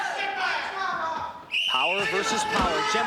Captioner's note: whihiststle blololow